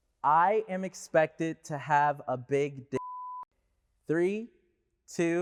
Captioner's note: beep